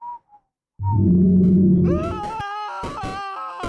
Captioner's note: hears JackONado's scream and a monster roar and stops whistling, again